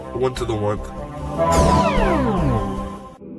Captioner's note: teleportation sound